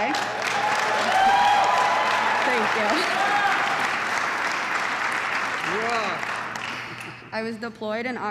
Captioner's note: applause